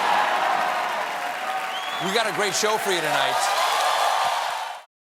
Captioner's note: cheers and applause